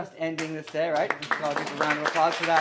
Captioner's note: applause